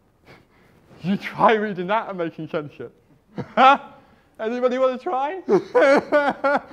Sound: laughs

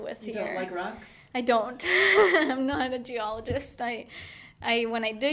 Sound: laughing

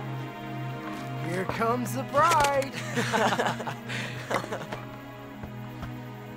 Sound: boys laugh

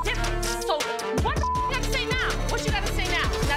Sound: beep

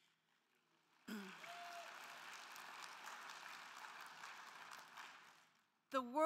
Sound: crowd clapping; crowd cheering

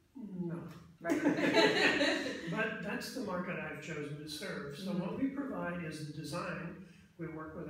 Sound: laughs

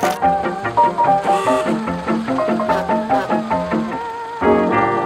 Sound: honking

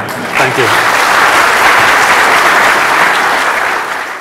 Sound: applause

